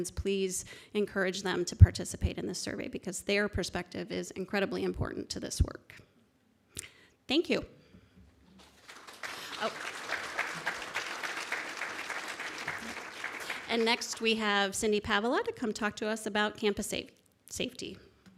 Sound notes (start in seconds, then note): 8.6 audience clapping